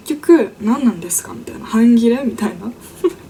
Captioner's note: laughs